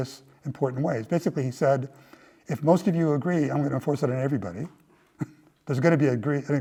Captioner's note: laugh